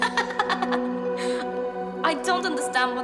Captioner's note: laughs